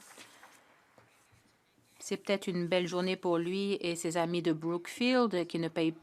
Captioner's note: some Applause